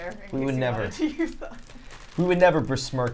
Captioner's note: laughs